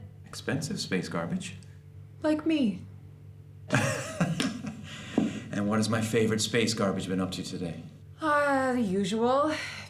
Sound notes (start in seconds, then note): 3.7 hearty laugh